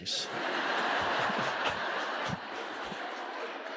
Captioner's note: audience laughing